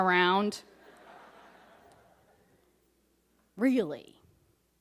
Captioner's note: audience laughs